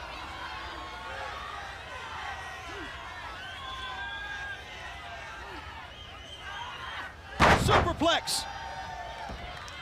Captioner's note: crowd chatter